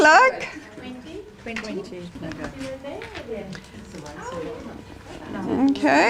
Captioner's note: audience chatter